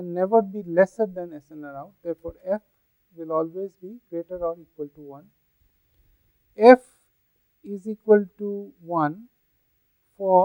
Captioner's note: white noise